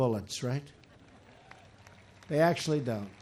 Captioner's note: applause